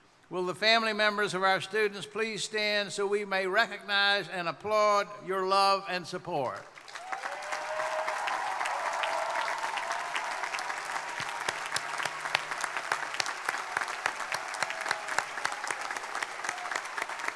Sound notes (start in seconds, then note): 6.8 crowd applauding; 6.8 crowd cheering